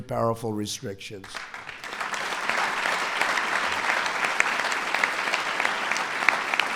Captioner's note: applause